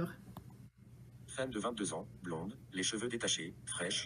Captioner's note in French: Voix de synthèse